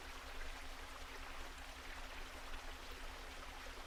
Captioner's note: water gushing